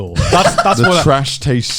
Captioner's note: Joey laughing